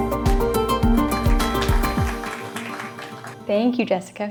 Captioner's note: applause